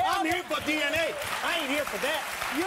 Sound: audience applause

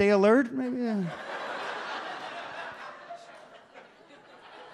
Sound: audience laughs

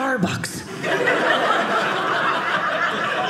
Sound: audience laughing

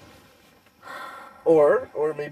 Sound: sigh

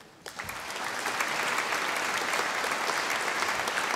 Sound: audience applauding

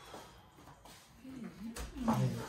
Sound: exhale

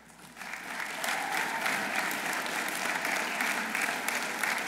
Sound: audience applauding

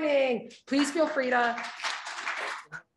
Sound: audience applauding

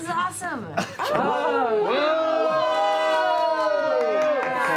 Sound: exclamations

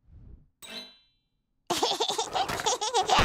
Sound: giggling

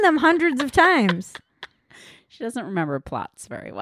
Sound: laughing

